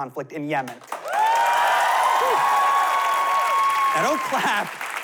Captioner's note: cheering, applause